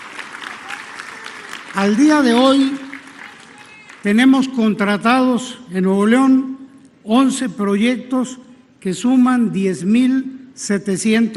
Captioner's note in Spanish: aplausos